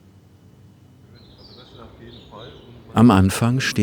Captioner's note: birds chirping